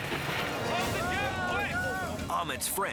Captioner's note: friends screaming